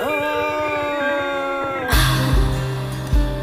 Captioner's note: Shiva screams